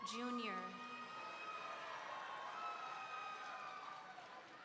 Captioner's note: audience cheering